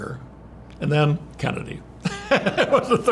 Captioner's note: laughs